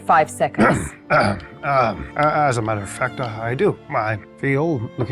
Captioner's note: clears throat